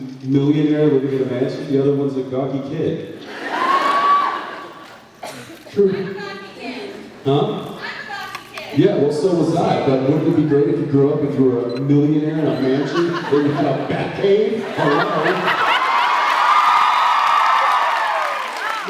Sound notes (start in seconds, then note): 3.3 laughs; 14.6 laughs; 15.1 cheers, applauds